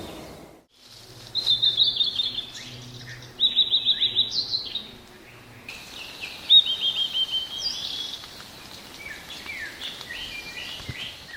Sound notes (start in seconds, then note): 4.1 summer birds